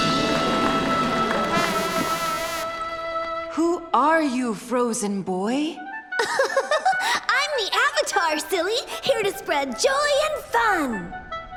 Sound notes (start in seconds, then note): 6.2 laughing